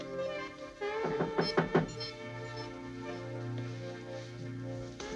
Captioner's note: knocking on door